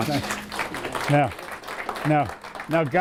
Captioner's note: applause